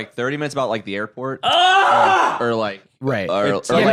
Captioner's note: screams